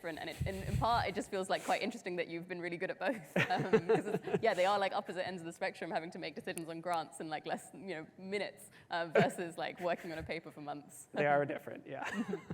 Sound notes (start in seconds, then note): 3.4 laughs